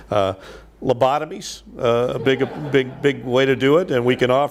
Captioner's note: audience laughs